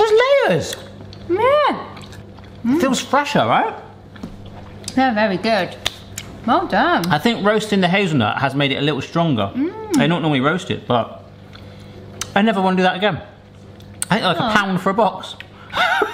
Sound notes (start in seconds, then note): 5.8 hands slapping